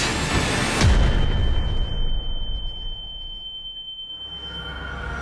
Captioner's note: high-pitched ringing